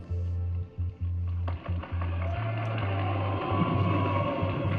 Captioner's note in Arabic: تصفيق الجماهير